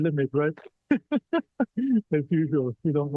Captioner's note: laughter